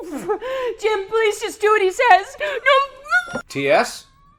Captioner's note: crying